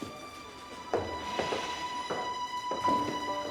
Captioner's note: sighs